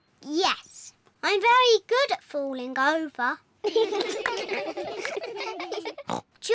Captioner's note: all giggle; snorts